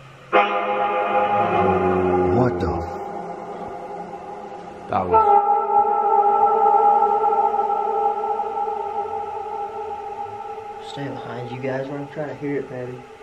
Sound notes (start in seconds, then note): 0.3 male voice, angrily; 6.1 echoing sounds